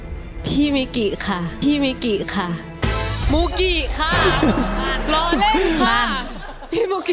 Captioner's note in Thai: เสียงหัวเราะ